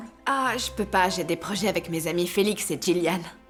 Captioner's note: none